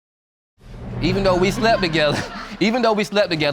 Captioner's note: chuckles